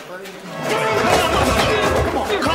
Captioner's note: grunting; exciting music